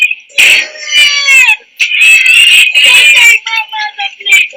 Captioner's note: crying